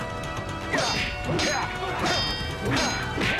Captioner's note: metal clanging